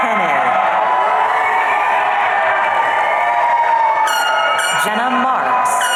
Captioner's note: audience cheering